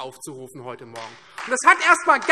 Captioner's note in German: Beifall Freie Demokraten